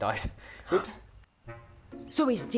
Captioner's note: gasp